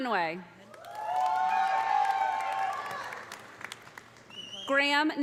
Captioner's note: audience applauding; audience cheering